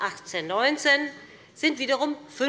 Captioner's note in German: none